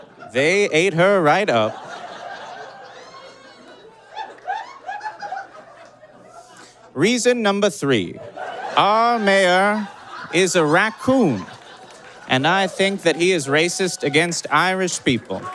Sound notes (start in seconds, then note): 1.7 scattered chirping laughter; 8.1 audience laughs hysterically